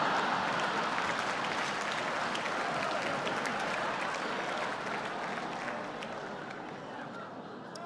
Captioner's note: laughter and applause